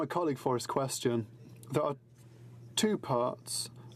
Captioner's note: speaking in french